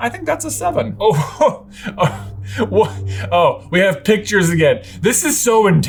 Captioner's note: laughing